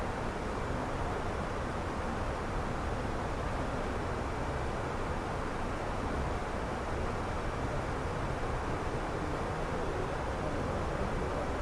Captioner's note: radio chatter